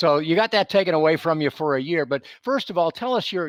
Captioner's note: none